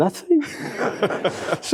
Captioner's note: laughter